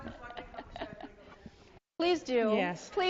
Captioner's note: laughs